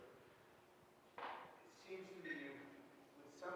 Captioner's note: audience member speaking softly off microphone